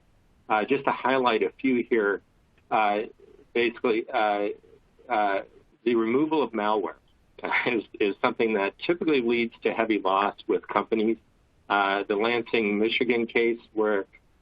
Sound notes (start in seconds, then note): 7.0 laughter